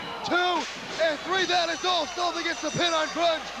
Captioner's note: bell ringing